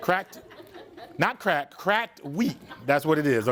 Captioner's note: students laugh